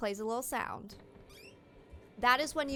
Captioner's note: door opening noises